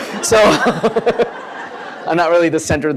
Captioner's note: laughter